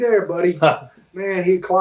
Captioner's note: chuckles